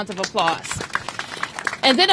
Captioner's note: applause